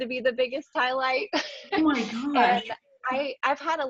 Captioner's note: laughs